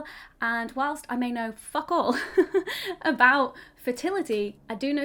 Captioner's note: chuckles